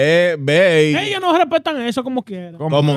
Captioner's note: speaking In Foreign Language